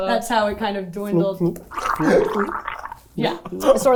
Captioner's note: gargling